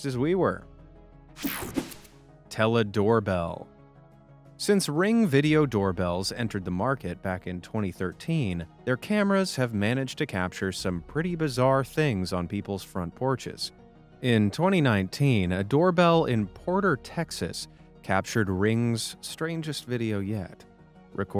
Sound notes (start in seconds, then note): 1.4 screen buzzing